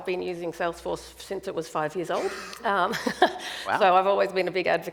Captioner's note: chuckles